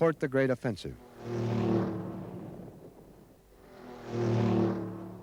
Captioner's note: propellor buzzes